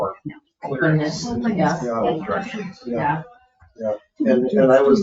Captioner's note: people chatter